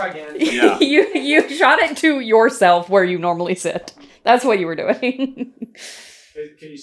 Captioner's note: laughing